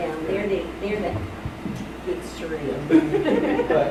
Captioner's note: laughing